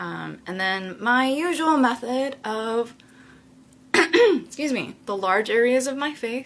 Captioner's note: coughs